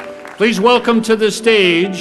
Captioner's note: applause